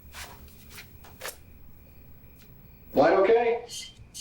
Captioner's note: footsteps crunching